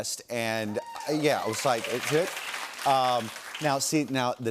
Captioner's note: laughter and applause